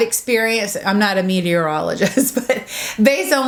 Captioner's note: laughs